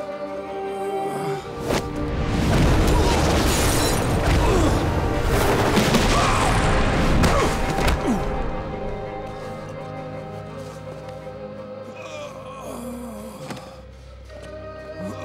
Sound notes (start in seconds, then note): 0.2 groaning; 2.5 grunting; 7.0 grunting; 11.9 groaning